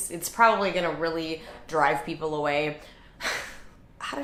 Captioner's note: none